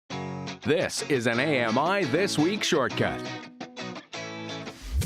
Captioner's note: voiceover